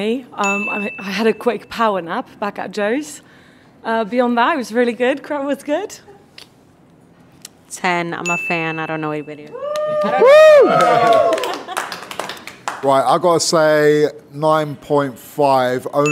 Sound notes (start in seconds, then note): 9.6 team cheers and applauds